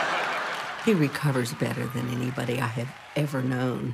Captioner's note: laughter